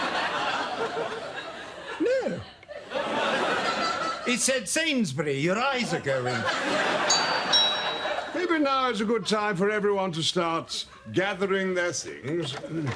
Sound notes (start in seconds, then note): 7.0 doorbell